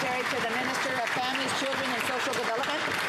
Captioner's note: some Applause